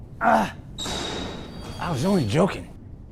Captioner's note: grunting; door clacking